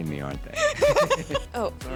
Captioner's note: laughing